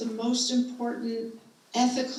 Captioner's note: none